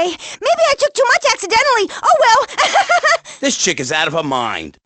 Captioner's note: laughs